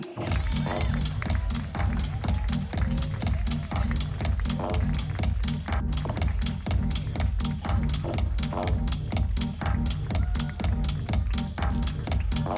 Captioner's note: applause